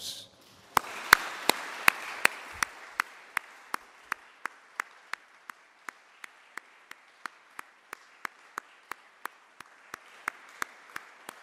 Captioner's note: applause